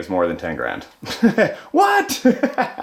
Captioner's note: laughing